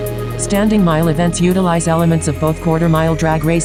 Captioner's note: automated Voice